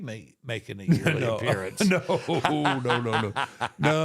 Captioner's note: Michael laughing